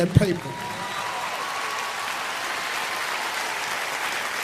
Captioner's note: applauding